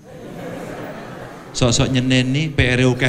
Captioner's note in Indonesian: tertawa